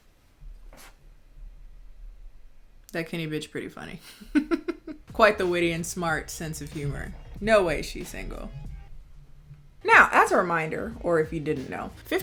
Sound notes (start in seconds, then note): 4.0 chuckling; 8.5 music stops abruptly